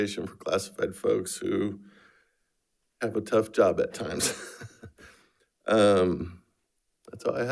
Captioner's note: laughs